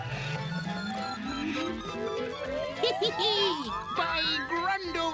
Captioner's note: Gimmick chuckles